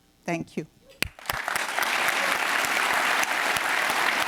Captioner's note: applause